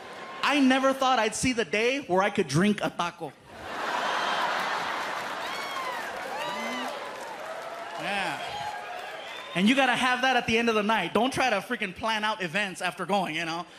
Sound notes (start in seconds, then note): 3.5 laughter